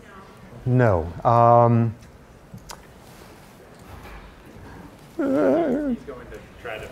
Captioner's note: noise of helplessness